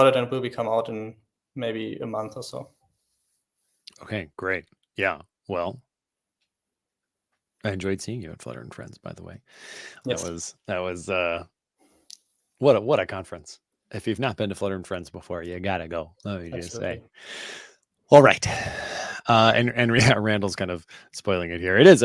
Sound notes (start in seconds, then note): none